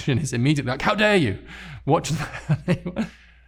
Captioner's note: chuckling